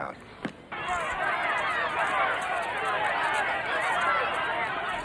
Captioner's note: crowd clamoring